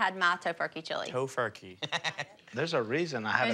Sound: laughs

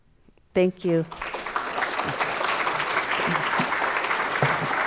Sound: audience applauds

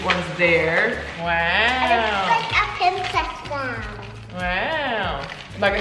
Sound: speaking faintly

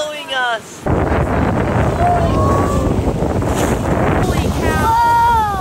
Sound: wind blowing

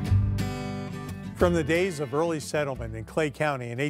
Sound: light acoustic guitar music; voiceover

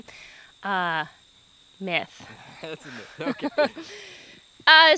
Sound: laughter

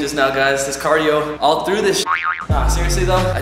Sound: spring springing

